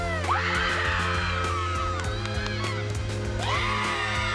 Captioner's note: audience cheering